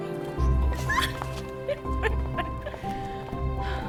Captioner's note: laughing